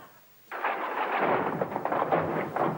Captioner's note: thunderclap